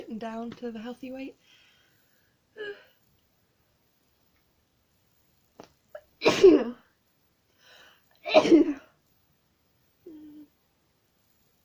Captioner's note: sneezes